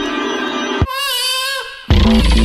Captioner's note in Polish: płacz małego dziecka